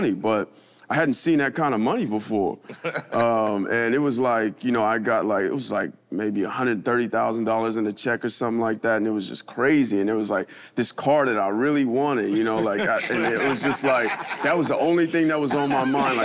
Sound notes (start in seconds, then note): 2.7 Chris laughs